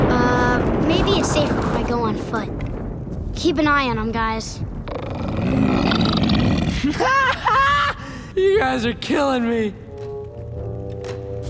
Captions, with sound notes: Um, maybe it's safer if I go on foot. Keep an eye on them, guys. [grunting, chittering] [laughing] You guys are killing me.